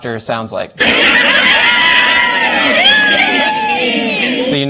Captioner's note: loud laughter